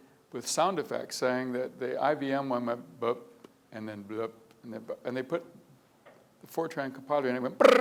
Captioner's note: blup